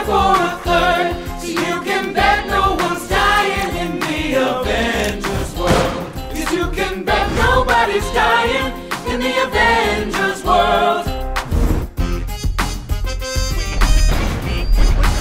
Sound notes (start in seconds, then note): 5.6 gunshot